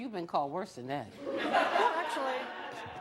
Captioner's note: audience laughing